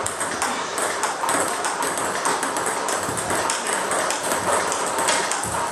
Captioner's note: ball ping pong hitting continues